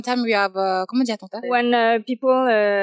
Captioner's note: speaking in French